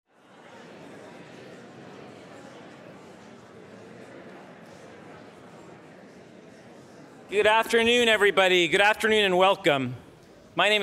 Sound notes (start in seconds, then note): 0.9 audience chattering